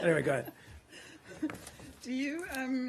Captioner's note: laughter